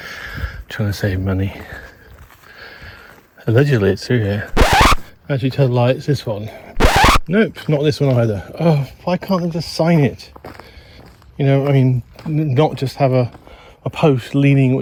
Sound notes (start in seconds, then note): 4.5 record scratch; 6.8 record scratch